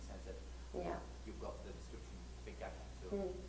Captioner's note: voiceover